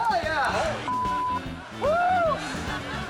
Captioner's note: beep; audience laughing